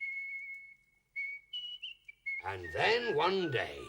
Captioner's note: soldier whistling